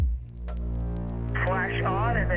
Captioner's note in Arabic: مركب الغدر sfx